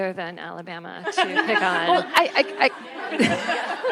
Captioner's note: attendees laughing; all laughing